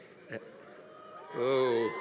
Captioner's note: audience cheering